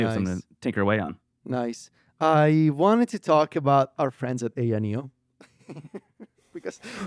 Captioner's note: laughs